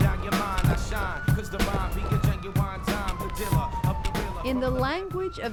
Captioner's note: sirens blaring